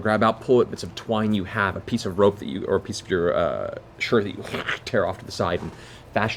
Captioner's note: tearing noise